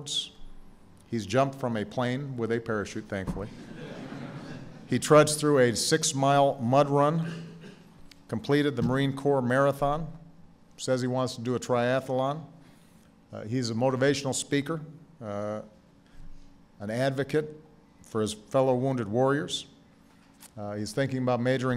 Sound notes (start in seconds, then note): 5.3 laughter